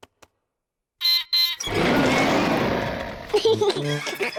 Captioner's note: beeps and roars; laughs